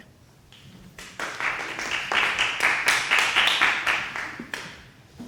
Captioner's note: applause